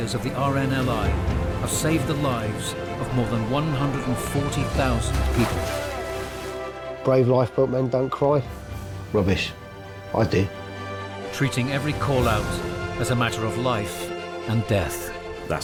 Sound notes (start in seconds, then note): 5.4 water splashing; 10.5 lively music